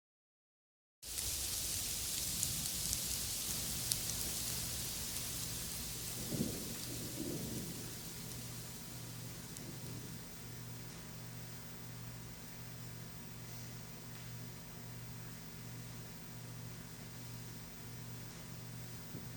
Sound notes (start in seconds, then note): 2.3 rain; 5.8 thunder